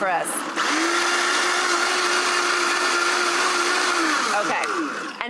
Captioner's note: blender whirring